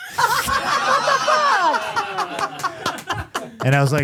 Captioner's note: Steph laughing